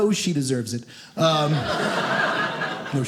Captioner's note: audience laughing